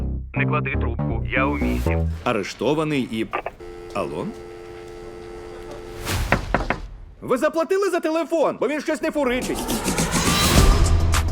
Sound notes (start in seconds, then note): 3.3 line disconnects; 6.3 knocking on window; 10.0 upbeat music playing